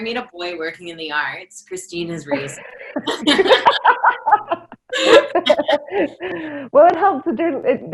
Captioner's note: laughter